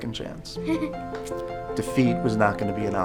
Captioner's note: laughs